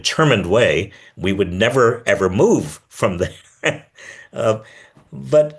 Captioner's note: laughs